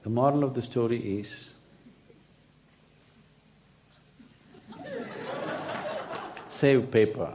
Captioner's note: laughter